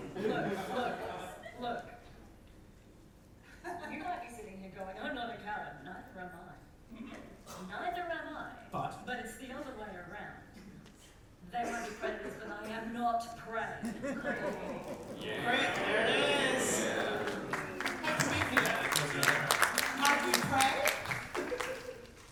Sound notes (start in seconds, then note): 18.3 audience claps